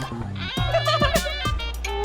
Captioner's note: upbeat music; laughs